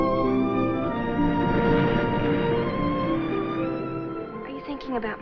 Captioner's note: waves crashing